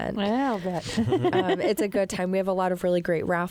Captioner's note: laughter